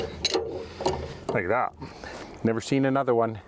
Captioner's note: chain clanks